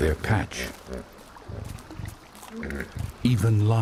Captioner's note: hippos grunting